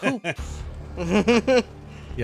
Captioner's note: laughing